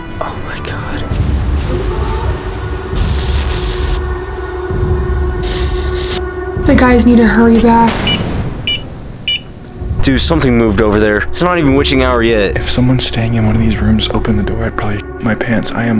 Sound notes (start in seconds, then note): 2.5 ominous music playing; 8.6 sensor beeping